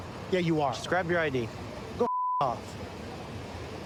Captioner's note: beep